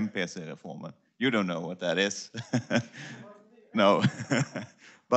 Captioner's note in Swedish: skratt